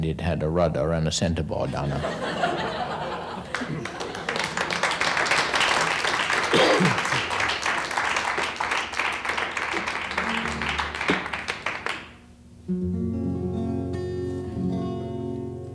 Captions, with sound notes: and it had a rudder and a center board on it. (audience applauds) (guitar playing)